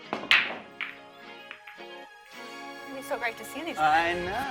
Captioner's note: lofty music; whacks cue ball